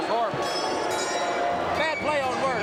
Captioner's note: bell ringing